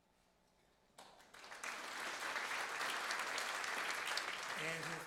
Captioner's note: applause